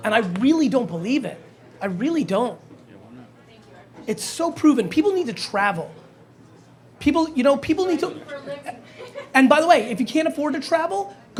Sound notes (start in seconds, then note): 8.4 laughs